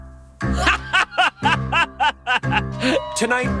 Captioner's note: Dale laughs